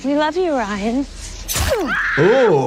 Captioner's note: knife slicing; victim screaming